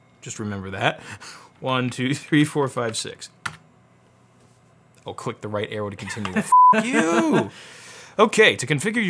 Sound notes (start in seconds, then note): 6.5 beep; 6.7 laughs